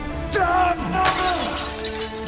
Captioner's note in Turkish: Cam Kırılma Sesi